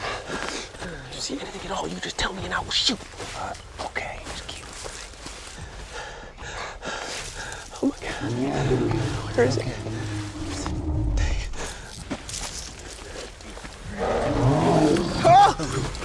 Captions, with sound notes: IF YOU SEE ANYTHING AT ALL, YOU JUST TELL ME, AND I WILL SHOOT. FINE. OKAY. JUST KEEP MOVING. [ PANTING ] OH, MY GOD. [ ANIMAL GROWLS ] THERE IT IS AGAIN. DANG IT. AAH!